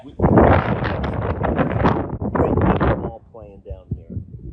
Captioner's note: wind rustling